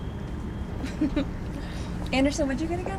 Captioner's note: laughs